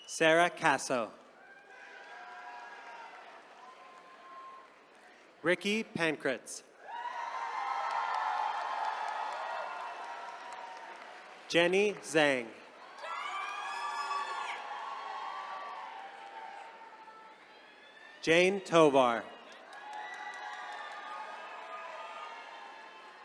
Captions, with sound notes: Sarah Caso. (attendees cheering) Ricky Pankratz. (attendees cheering) Jenny Tseng. (attendees cheering) Jane Tovar. (attendees cheering)